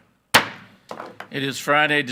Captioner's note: gavel banging